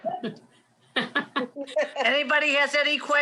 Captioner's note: laughs